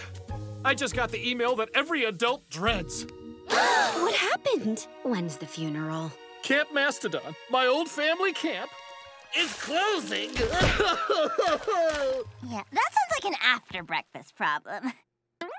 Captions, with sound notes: I just got the email that every adult dreads. [gasping] What happened? When is the funeral? Camp Mastodon, my old family camp... is closing. [crying] That's like an after breakfast problem.